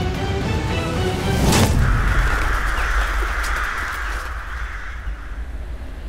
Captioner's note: Caw